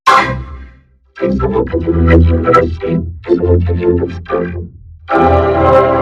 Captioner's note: and the Windows sounds, too